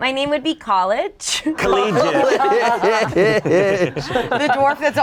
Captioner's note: group laughs